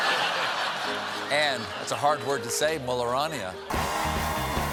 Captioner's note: laughter